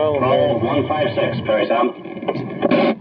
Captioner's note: over Radio